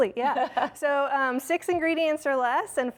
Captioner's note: laughter